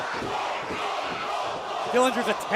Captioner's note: fans chanting